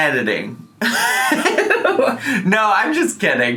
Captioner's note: giggles